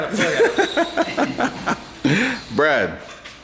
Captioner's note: laughs